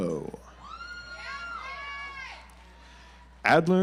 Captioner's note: audience applauds